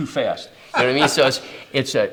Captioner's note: laughs